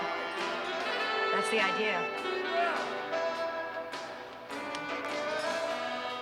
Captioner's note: shouting